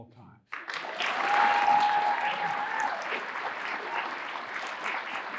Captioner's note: audience applauding and cheering